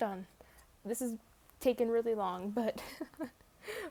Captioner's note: laughs